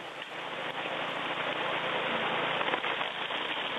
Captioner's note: washing gravel noises